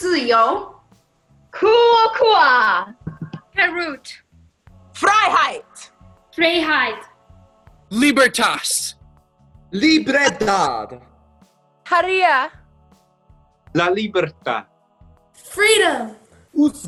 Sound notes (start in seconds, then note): 0.1 speaking in foreign language; 12.0 peaking in foreign language; 13.7 speaking in foreign language